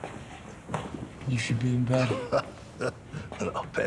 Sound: chuckles

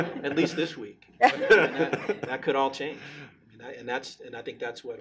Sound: laughing

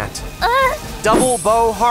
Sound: Diane groaning

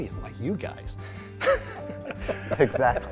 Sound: laughter

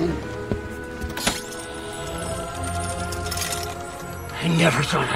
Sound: trunk opening

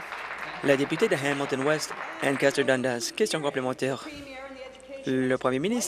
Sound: applause

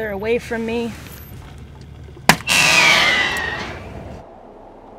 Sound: sound of bear-banger firing

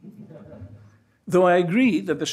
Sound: audience laughs

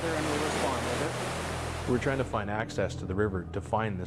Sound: voiceover

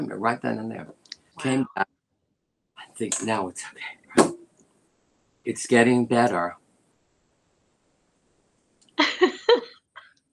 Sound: laughter

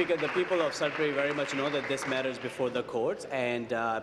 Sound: applause

